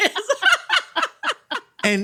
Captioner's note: laughing